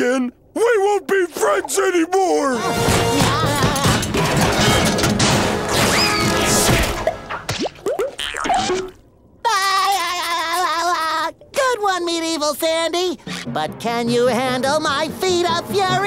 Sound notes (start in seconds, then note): 2.8 metal clanging; 9.4 laughing